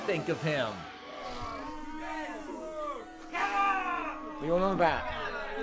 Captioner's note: audience boos